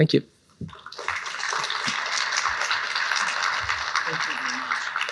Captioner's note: applause